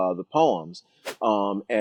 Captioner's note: whooshing sound